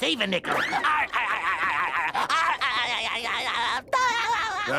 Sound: laughing

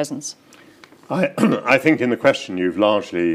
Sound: clears throat

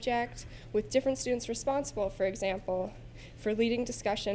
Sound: none

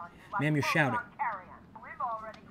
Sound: woman on phone

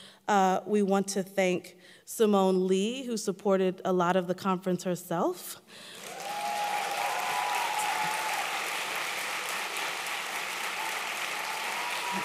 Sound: applause

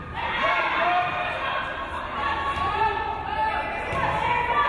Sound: crowd cheering

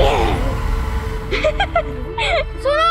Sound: laughing

